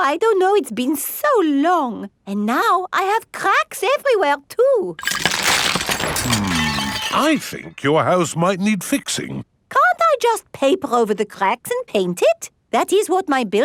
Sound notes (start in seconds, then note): 5.0 cracking